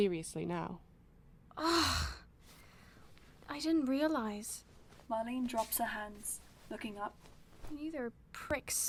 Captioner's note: Marlene groans